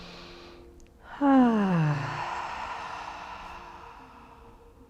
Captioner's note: sighs